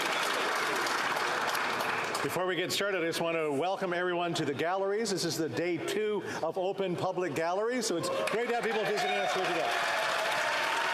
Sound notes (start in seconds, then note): 3.0 applause